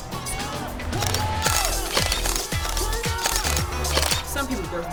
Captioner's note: cameras clicking